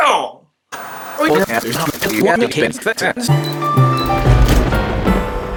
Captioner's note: fast forwarding noise